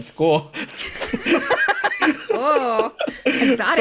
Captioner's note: both laugh